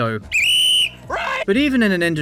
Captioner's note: whistle